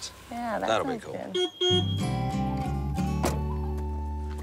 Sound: car horn

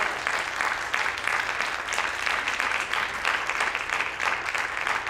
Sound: audience applauding

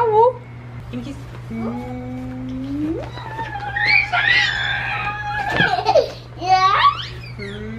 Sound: laughter

